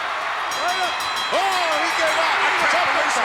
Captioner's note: bell ringing